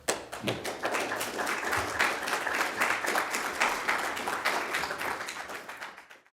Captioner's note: applause